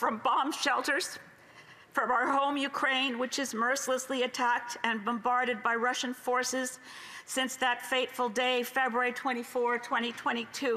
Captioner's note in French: voix de l'interprète